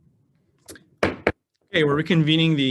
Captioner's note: gavel banging